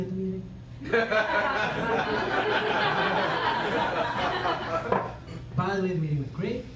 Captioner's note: laughter